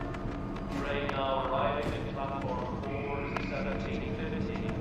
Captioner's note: man over P.A